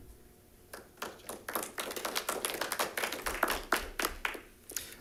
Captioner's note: audience clapping